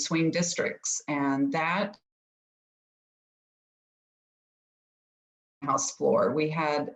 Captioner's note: audio cuts out